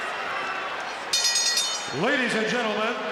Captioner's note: bell rings